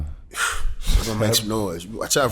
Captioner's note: exhales